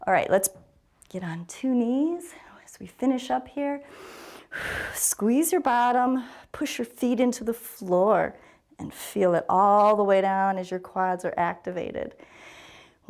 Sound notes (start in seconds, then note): 3.9 inhales and exhales